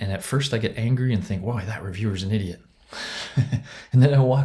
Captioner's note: chuckles